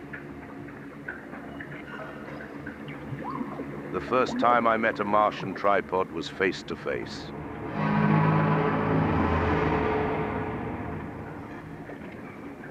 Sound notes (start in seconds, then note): 7.6 loud unearthly horn